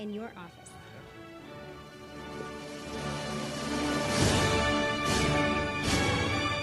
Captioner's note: upbeat music; audience applauding